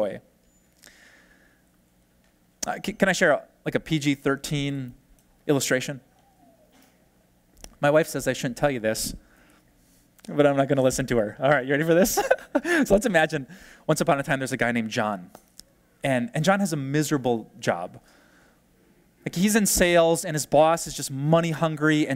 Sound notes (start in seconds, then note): 12.0 pastor: Laughter